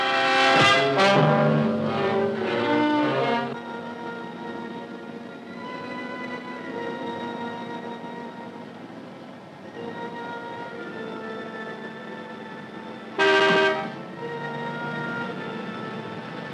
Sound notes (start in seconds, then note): 0.6 suspenseful orchestral music; 13.1 horn blowing